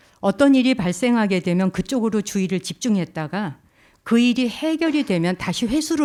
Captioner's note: speaking in Korean